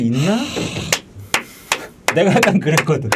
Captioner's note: laughing